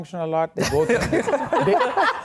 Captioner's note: laughing